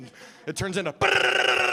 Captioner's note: imitating machine gun